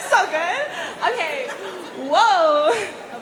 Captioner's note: laughter